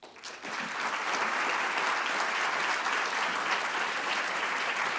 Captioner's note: audience applauding